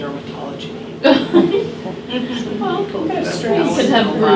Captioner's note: loud laughter